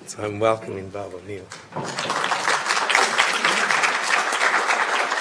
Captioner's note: applause